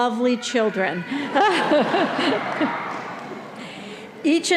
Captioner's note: audience laughing